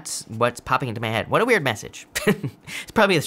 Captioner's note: laughs